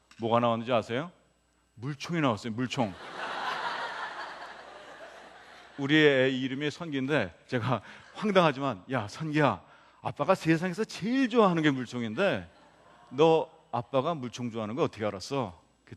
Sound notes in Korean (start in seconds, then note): 2.8 웃음